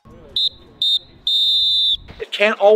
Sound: whistle blows

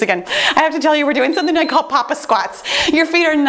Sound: timer beeps

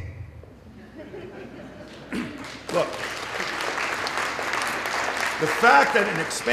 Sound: little laughter, applause

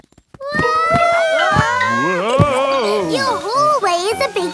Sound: all yelling

